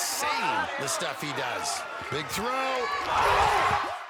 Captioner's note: cheering